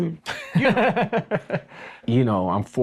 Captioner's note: people laughing